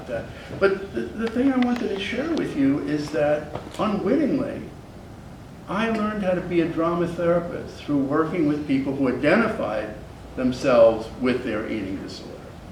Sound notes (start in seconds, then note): none